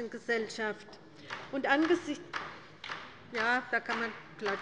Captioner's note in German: Beifall bei der LINKEN